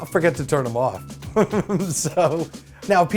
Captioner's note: laughs